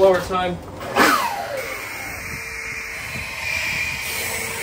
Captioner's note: engine revs